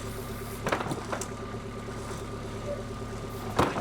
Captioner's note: wood clanking